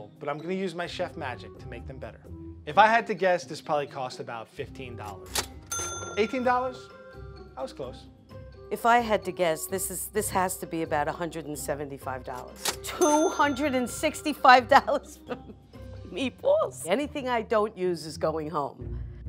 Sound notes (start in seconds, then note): 5.7 cash register chimes; 14.8 laughs